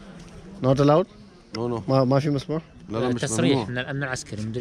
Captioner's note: in Arabic